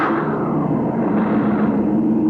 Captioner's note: loud engine